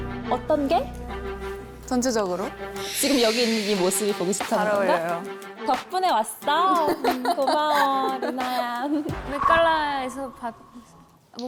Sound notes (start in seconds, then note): 2.8 sound effect of being provoked right from the start